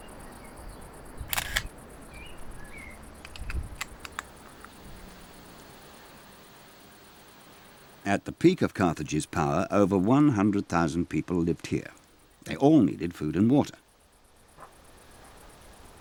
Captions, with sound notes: (shutter clicking) At the peak of Carthage's power, over 100,000 people lived here. They all needed food and water.